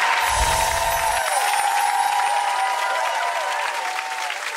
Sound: twinkling noise; audience cheering

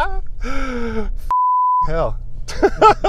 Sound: gasps; beep; laughs

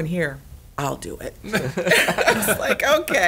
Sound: laughs

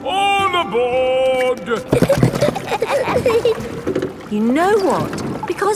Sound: giggling

